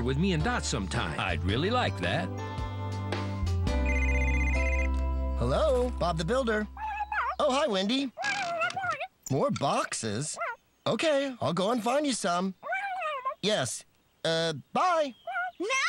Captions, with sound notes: WITH ME AND DOT SOMETIME. I'D REALLY LIKE THAT! ( Phone Rings ) HELLO? BOB THE BUILDER! ( Garbled Phone Voice ) OH, HI, WENDY. ( Garbled Phone Voice ) MORE BOXES? OKAY, I'LL GO AND FIND YOU SOME. ( Garbled Phone Voice ) YES... UH, BYE!